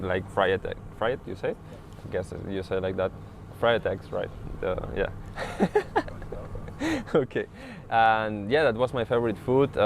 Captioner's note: laughs